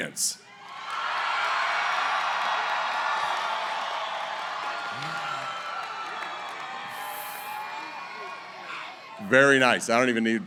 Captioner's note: cheering